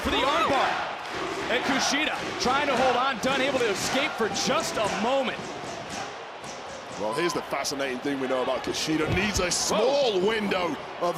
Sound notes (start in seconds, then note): 1.6 audience chanting "kushida"